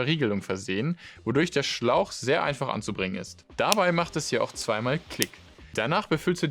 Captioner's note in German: Klick